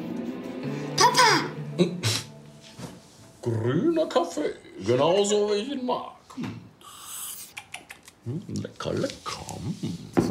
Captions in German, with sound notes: Papa! - Hm? Grüner Kaffee, genauso, wie ich ihn mag. *Er schnalzt.* Lecker, lecker.